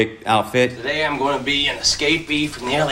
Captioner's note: soundbite of tv show, "jackass"